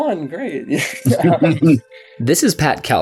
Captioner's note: laughter